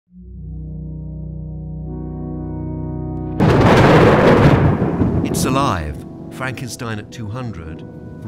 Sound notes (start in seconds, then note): 0.0 ambient music; 3.3 lightning cracks